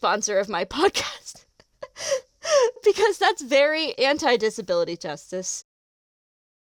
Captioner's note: delighted laugh